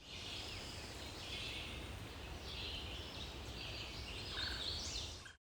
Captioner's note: birds and insects chirping